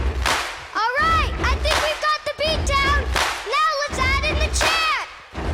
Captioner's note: stomping, clapping